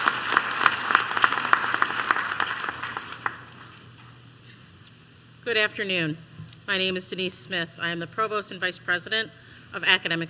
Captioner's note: applause